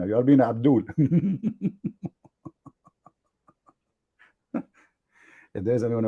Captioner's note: Ketawa